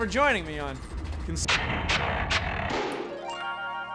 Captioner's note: grinding